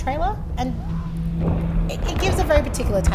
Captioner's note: orchestral music; sounds of war